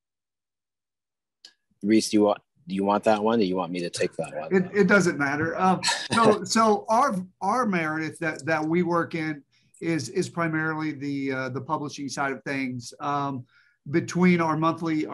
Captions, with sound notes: Reese, do you want that one, or you want me to take that one? -It doesn't matter. -[laughs] So our Meredith that we work in is primarily the publishing side of things. Between our monthly